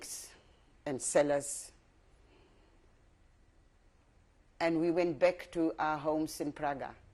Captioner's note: pauses for 3 seconds